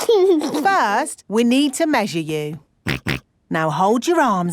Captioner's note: snorts